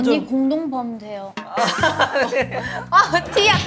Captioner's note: bursts out in laughter